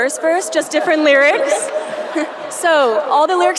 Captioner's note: audience laughing